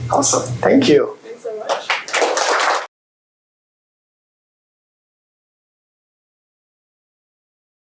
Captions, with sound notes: Awesome, thank you. Thanks so much. [APPLAUSE]